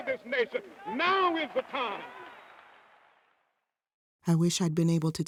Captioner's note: audience cheering